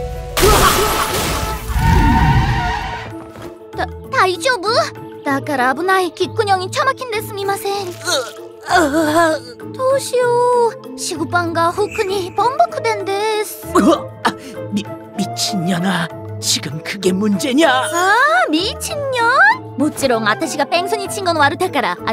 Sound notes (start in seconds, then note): 13.6 cough cough